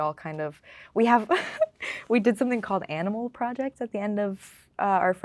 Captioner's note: laughing